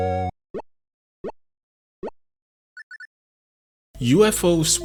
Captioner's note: pleasing blip sound as points are tallied